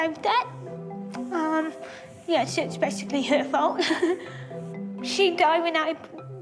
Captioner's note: laughter